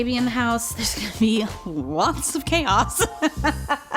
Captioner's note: laughs